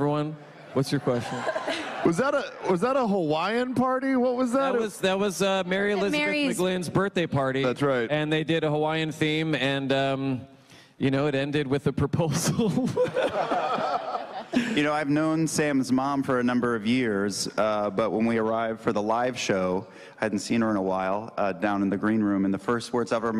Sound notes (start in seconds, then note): 12.3 laughter